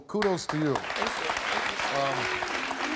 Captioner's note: audience applauds